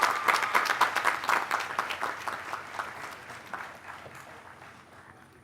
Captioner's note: applause